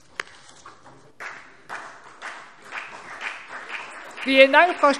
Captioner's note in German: Beifall CDU und BÜNDNIS 90/DIE GRÜNEN